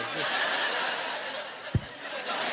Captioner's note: laughing